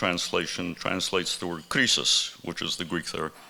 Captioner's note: speaking in Greek language